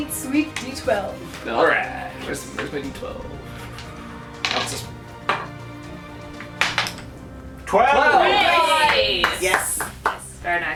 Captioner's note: cheering and clapping